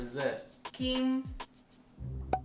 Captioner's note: pop